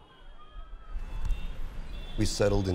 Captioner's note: city noises